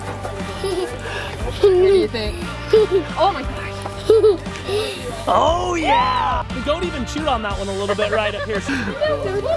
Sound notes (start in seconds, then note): 0.6 giggles